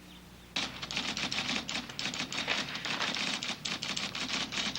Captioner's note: typewriter clanking